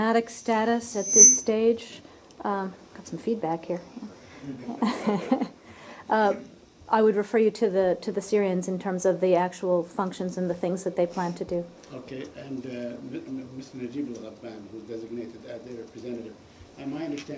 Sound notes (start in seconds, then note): 4.6 laughter